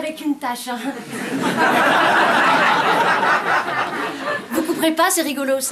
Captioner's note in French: rires